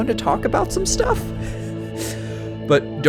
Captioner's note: uneasy laughing